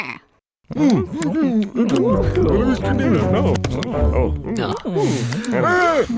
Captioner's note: all eating and muttering excitedly; Abraham laughs